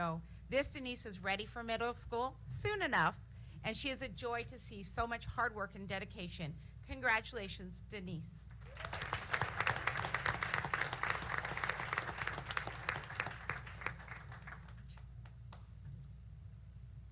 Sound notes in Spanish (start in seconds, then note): 7.8 aplausos